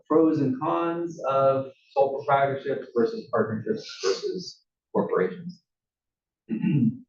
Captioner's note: cough